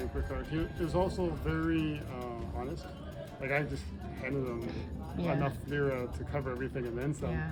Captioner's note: Turkish